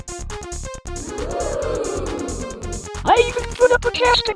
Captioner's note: audience OoOoOoOing